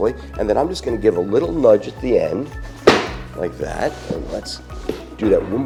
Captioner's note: thuds